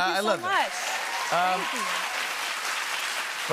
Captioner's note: cheers and applause